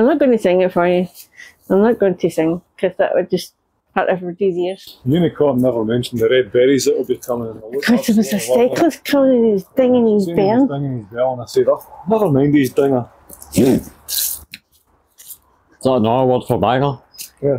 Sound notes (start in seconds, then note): 13.4 chortle